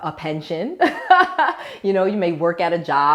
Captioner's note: laughs